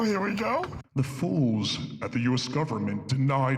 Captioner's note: deep voice